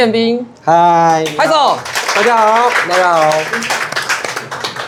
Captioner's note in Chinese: 拍手